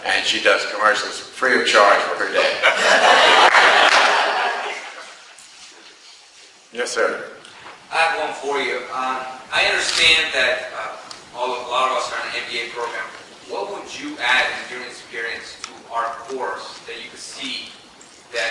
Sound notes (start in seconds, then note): 2.6 crowd laughs